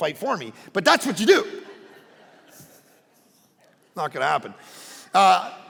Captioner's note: congregation laughing